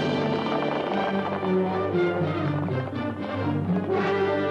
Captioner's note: hooves clopping